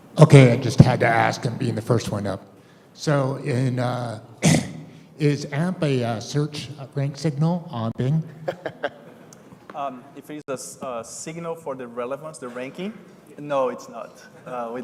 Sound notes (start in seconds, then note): 8.3 laughter